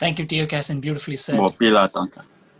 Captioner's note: speaks in Native American language – not transcribed